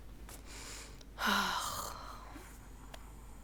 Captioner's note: softly groans